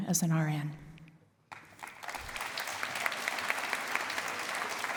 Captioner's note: applause